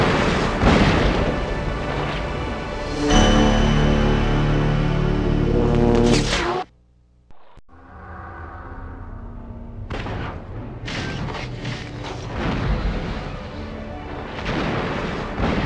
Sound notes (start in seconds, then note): 5.6 mechanical sounds; 7.6 dramatic sounds; 9.8 digitized landslide sounds